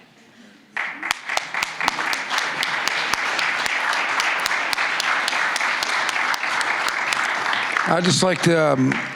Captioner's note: applause